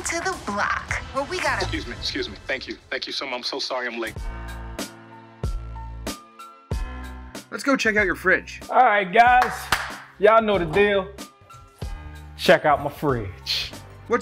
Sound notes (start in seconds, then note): 4.5 bright music; 9.3 clapping